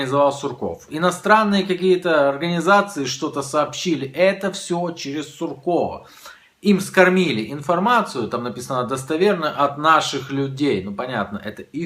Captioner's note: Russian